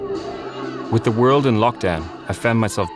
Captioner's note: TV blaring